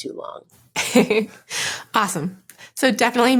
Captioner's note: laughing